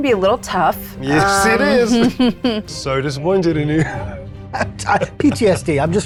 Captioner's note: laughs